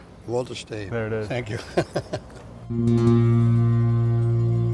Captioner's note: laugh